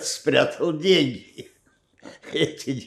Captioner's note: laughing